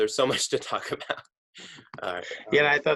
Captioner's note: laughing